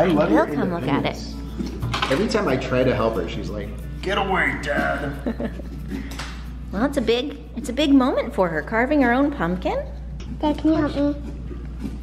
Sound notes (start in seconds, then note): 5.0 chuckles